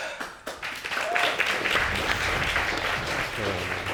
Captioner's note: audience applauding